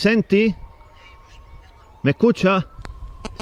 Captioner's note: voice with interference